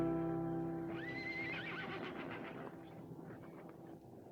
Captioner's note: horse neighs